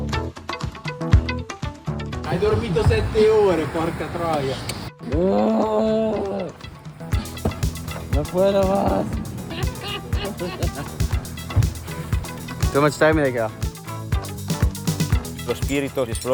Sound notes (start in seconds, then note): 5.0 Simon complaining